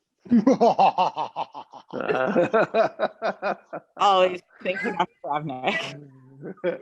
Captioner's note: laughs